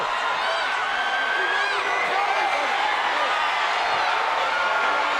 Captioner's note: crowd shouts and cheers